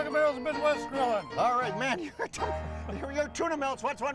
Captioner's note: chuckling